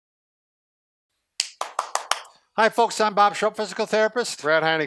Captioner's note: claps